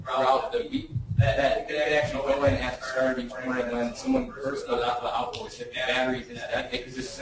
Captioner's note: distorted speech